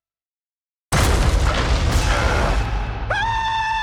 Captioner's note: rumbling; screams